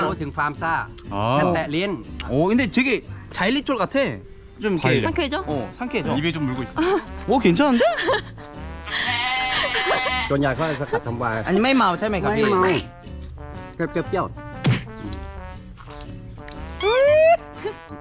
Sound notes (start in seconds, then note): 8.8 laughing